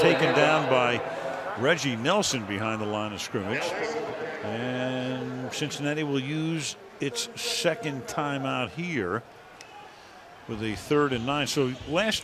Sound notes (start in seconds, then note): 4.1 pa announcement